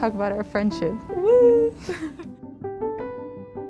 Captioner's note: laugh